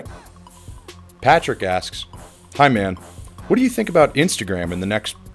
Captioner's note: voiceover